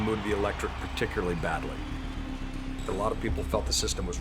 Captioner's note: large crowd cheering